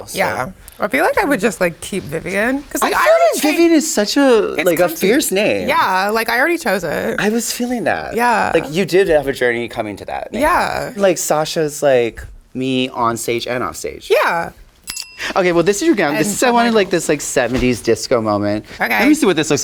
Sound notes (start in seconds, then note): 14.8 bell dings